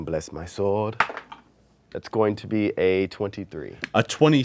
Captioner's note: dice roll